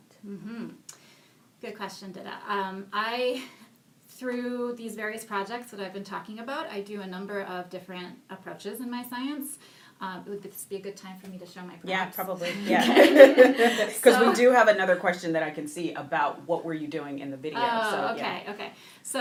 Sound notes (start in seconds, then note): 15.0 laughing